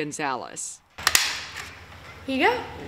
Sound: paper punch clicks

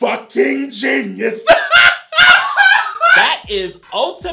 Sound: laughs

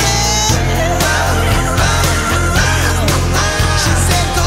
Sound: vocalizing

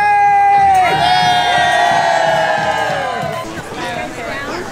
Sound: crowd cheers

